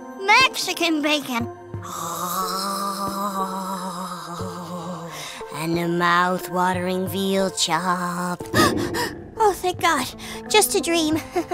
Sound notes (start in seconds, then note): 10.2 gasp